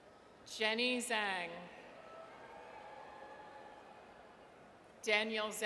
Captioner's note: audience cheers